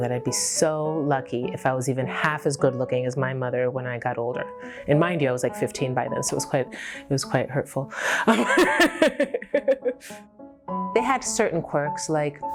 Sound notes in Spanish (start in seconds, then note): 8.2 risas